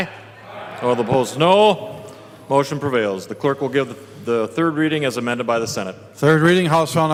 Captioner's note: chorus of ayes